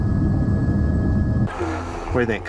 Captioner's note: girl groaning